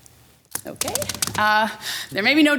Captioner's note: hands thudding